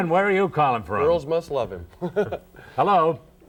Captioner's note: chuckles